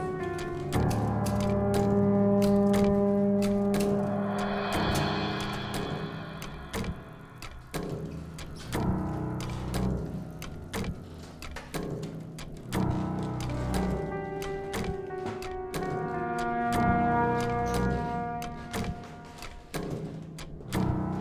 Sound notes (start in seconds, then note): 0.2 ominous music; 8.3 ticking; 16.1 ominous music